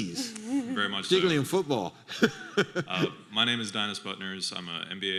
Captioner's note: chuckles